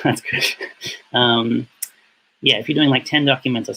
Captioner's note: laughs